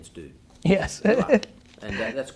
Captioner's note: chuckles